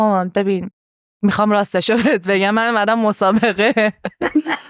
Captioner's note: laughs